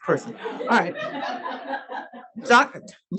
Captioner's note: audience laughs